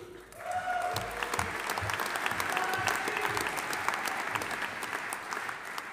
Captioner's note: audience applauding; audience cheering